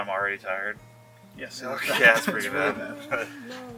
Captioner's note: laughing